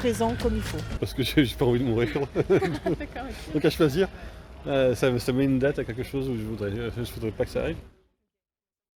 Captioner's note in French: Rires